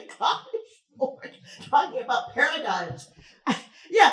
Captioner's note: chuckles